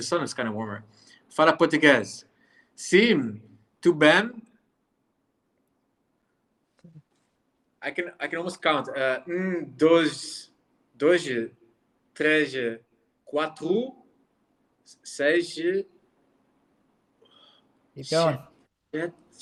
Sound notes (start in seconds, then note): 1.5 Pieter speaking in foreign language; 9.6 Pieter speaking in foreign language